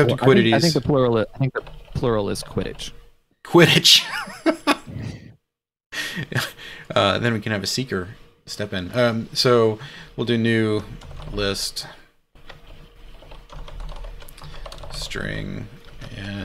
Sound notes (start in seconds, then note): 4.0 laughs